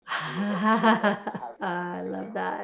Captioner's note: woman laughing